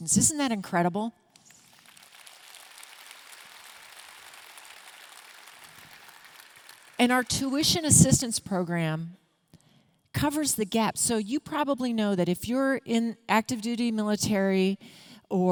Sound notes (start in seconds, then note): 1.4 audience clapping